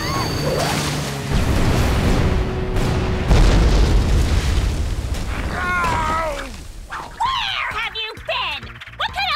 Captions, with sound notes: [DUKE SCREAMS] Where have you been? What kind of lousy bodyguard are you?